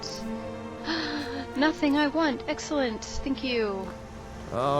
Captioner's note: gasp